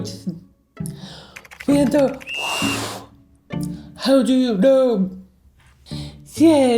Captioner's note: blows whistle